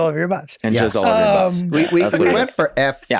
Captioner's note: laughs